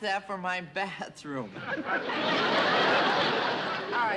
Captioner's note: laughter